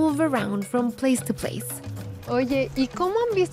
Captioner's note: speaking Spanish